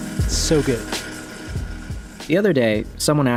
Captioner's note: tape whirring